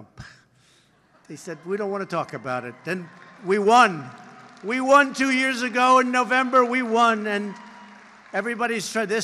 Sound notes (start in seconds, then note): 0.2 laughter; 6.3 applause